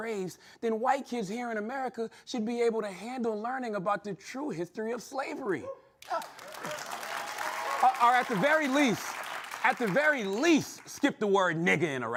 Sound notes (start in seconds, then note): 6.0 applause